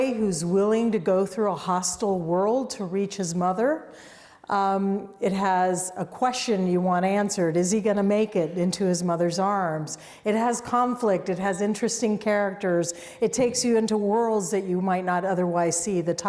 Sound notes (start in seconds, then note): none